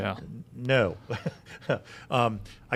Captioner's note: laughs